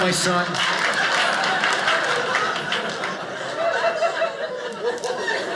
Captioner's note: audience laughing